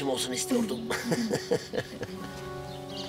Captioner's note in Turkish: Gülüyorlar